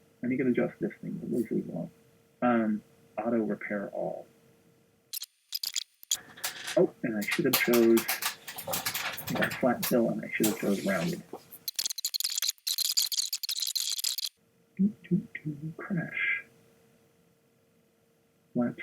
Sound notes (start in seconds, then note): 6.0 squeaking; 12.3 squeaking